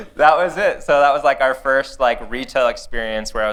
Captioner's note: laughter